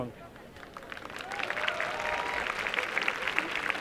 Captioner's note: applause